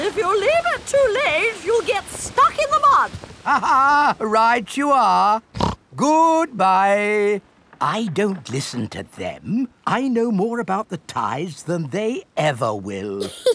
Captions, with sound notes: If you leave it too late, you'll get stuck in the mud. (LAUGHS) Right you are! (SNORTS) Goodbye! I don't listen to them. I know more about the tides than they ever will!